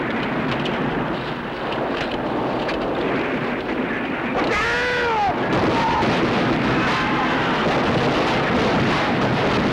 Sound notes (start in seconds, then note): 4.6 speaking japanese; 5.5 gunfire